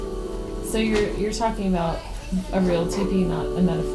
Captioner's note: voiceover